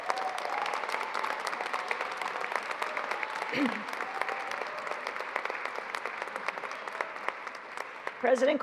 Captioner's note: applause